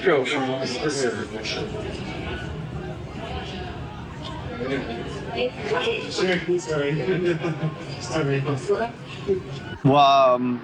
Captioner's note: background bar noise